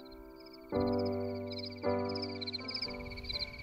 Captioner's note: insects chirp